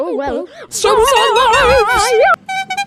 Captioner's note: screaming